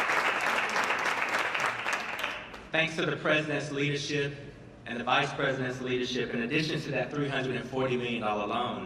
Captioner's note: applause